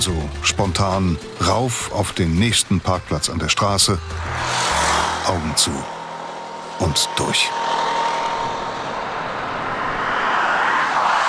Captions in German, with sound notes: Also, spontan rauf auf den nächsten Parkplatz an der Straße. Augen zu und durch. (Lauter Straßenlärm)